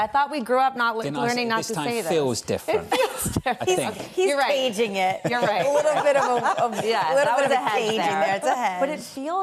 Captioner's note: laughter